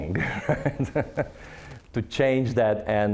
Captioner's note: laughing